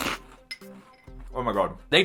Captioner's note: crunches on food; spoon clinks in bowl